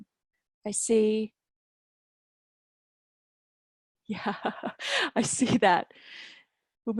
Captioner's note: laughter